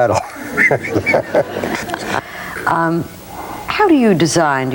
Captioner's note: laughing